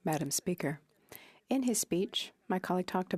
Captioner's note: speaking French